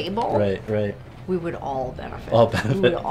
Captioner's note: laughs